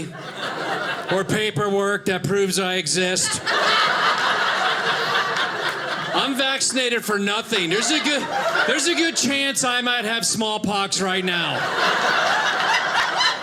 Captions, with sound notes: or paperwork that proves I exist. (audience laughing) I'm vaccinated for nothing. There's a good chance I might have smallpox right now. (audience laughing)